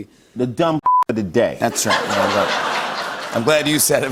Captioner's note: laughter